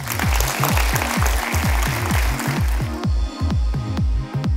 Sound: audience clapping; upbeat pop music

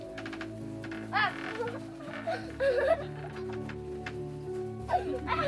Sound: laughs

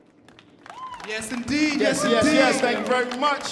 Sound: audience applauding

